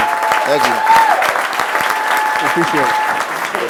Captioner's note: applause